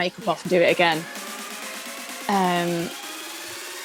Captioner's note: Sketch audio plays